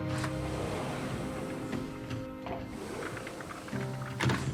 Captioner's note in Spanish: ruido al correr la puerta